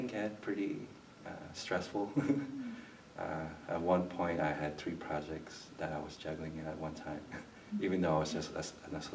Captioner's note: chuckles